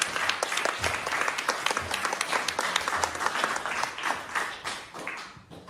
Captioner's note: applause